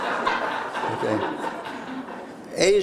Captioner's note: laughter